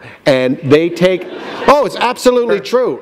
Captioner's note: laughter